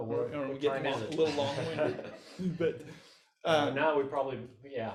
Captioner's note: laughs